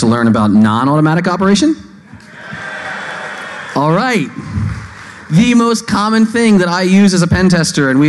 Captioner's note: applause